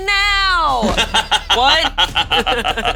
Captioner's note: all laughing